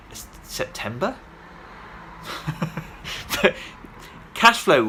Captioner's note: laughs